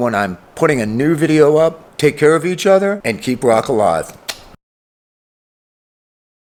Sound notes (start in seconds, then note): 4.1 kisses